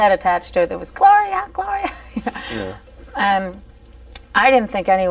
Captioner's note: laughing